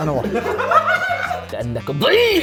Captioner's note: laughter